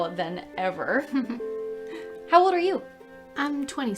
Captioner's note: laughs